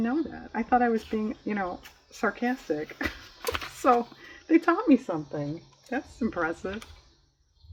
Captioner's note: laughs